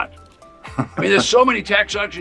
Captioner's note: chuckles